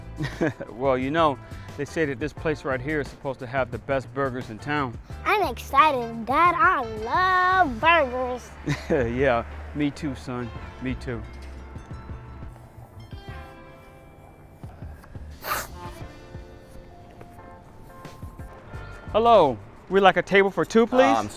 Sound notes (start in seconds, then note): 0.2 chuckles; 8.6 chuckles; 12.7 soft orchestral music; 14.6 waiter sniffles